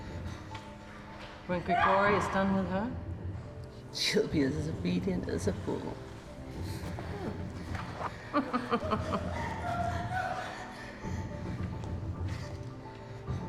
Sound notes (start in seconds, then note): 6.8 chuckles; 10.2 woman gasping